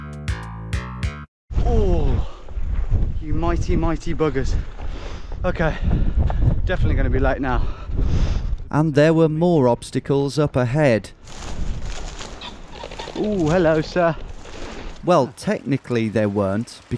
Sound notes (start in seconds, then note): 11.1 shrubbery crunching